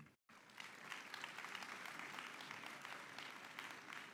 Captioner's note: audience clapping